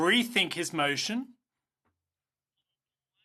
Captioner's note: speaking in French